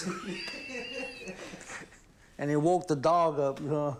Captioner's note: laughing